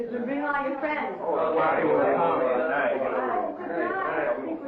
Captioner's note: people chatter